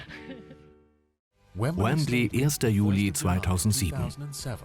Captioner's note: voiceover